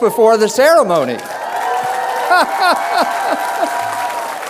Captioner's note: applause; laughs